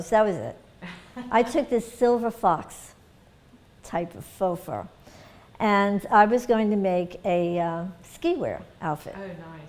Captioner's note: laughter